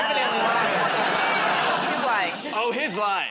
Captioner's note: laughter